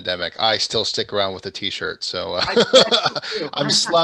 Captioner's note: laughs